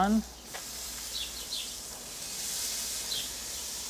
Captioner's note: meat sizzles